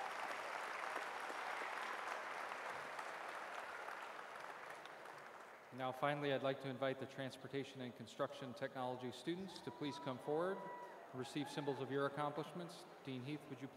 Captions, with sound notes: CONGRATULATIONS, SERVICE DIVISION GRADUATES. [ APPLAUSE ]